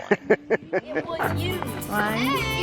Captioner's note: laughs